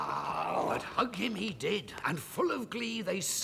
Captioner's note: exclaiming